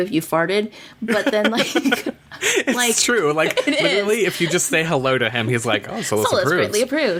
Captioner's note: laughs